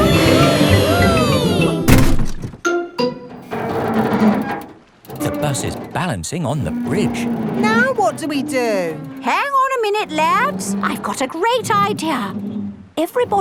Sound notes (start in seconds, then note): 0.3 all cheering; 3.9 creaking